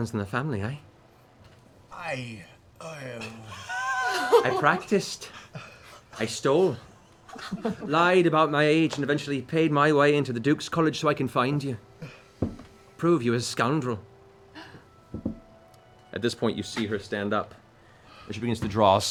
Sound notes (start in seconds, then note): 3.4 laughter